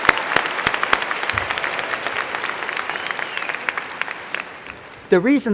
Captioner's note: cheers and Applause